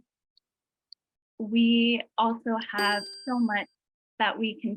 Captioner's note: bell chiming